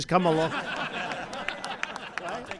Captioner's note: laughter